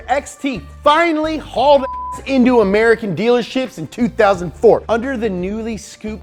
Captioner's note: beeping